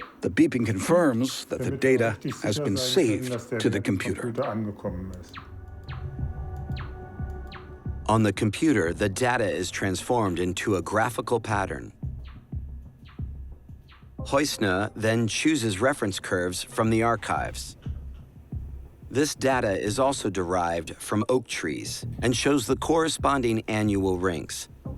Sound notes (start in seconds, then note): 5.4 intermittent beeping; 12.3 beeping continues